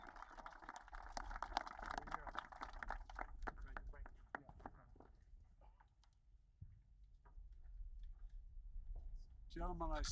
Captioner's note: applause